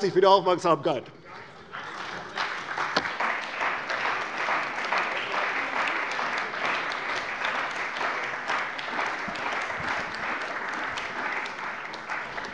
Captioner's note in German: Beifall bei der CDU und dem BÜNDNIS 90/DIE GRÜNEN